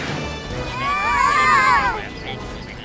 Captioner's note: yelling